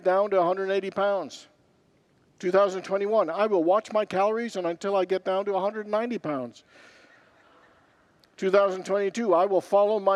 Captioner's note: congregants laugh